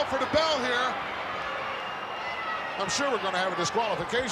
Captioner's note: applause